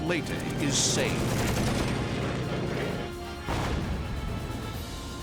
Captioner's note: rapid gunfire